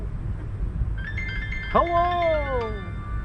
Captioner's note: phone rings